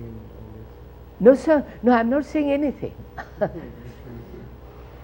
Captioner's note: laughs